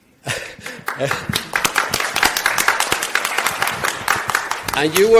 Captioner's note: audience applauding